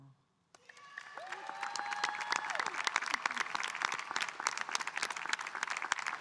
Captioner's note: audience cheering and applauding